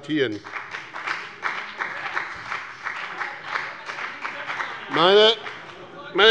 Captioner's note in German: Beifall bei dem BÜNDNIS 90/DIE GRÜNEN - Unruhe bei der SPD und der LINKEN